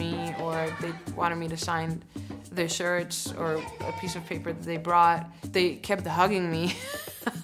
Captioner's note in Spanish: riendo